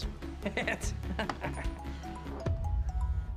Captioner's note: laughing; ringtone playing